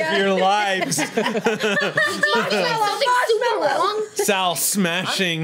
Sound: group laughs; overlapping chatter

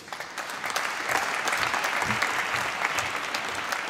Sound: applause

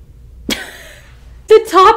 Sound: laughing

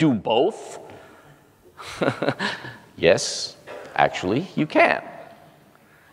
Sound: laugh

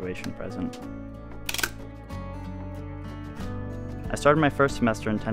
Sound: upbeat music; lens cranking

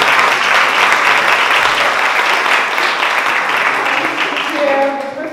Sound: applause

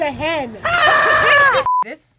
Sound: screaming

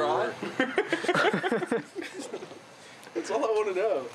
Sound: laughing

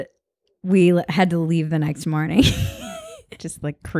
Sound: laughs

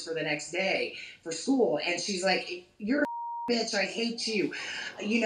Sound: beeping

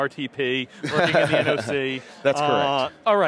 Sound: laughs

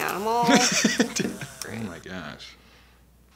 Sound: laughs

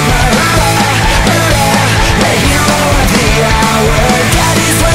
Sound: bang bang

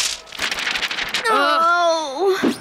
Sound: groaning

